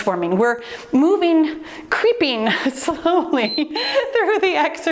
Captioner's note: timer beeps